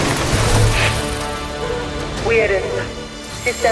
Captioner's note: crash; system alert beeping